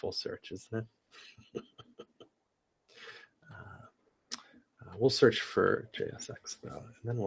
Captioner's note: laugh